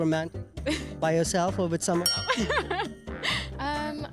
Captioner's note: laughs